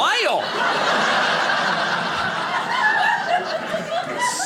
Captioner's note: audience laughing